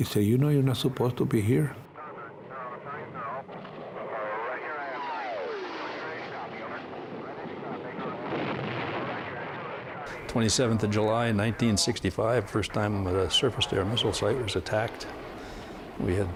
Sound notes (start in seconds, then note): 3.4 radio chatter; 8.6 large explosion